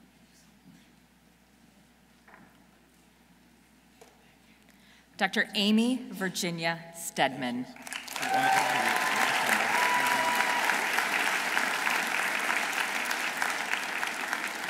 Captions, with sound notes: Dr. Amy Virginia Stedman. -(audience cheering) -(audience applauding)